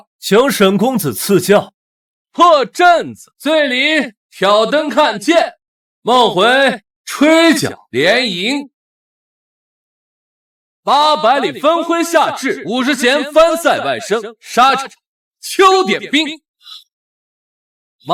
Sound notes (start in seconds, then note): 2.0 reciting poetry